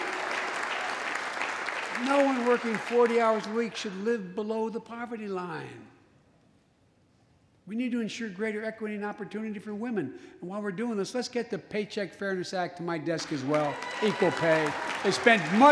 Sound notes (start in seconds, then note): 0.0 applause